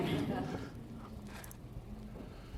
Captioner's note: laughter